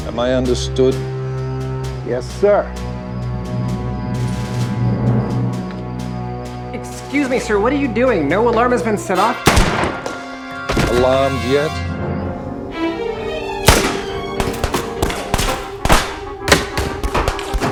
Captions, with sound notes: Am I understood? - Yes, sir. (ominous music) - Excuse me sir, what are you doing? No alarm has been set off. (gun firing) - Alarmed yet. (guns firing)